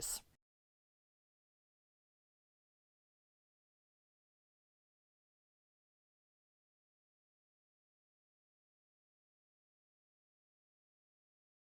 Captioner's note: no Sound Present